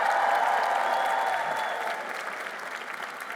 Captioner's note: applause